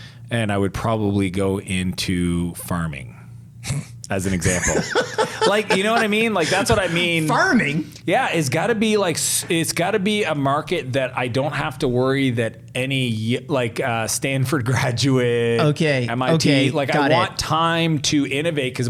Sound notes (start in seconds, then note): 4.3 laughs